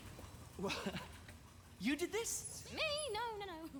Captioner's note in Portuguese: laughs